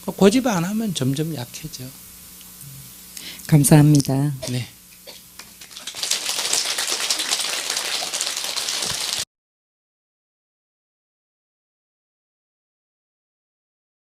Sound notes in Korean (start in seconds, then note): 5.4 청중박수